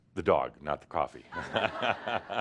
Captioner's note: laughter